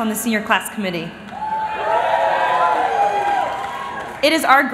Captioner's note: cheering